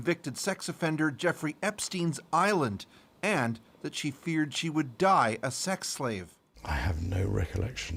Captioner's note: none